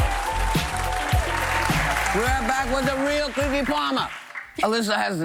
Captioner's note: applause